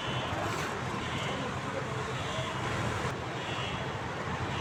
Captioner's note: general street noise